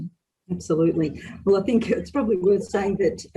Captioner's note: laughs